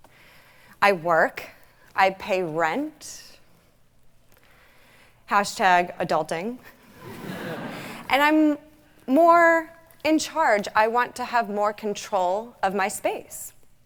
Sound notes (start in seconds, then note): 7.0 audience laughing